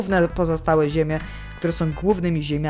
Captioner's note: inhales